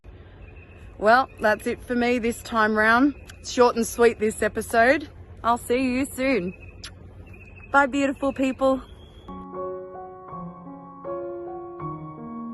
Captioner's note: kiss